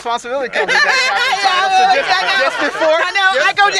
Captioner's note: laughter